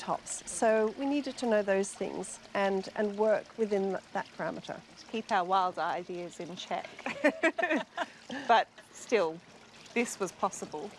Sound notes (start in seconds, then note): 6.9 laughter